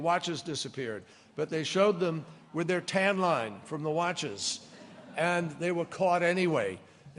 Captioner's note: laughter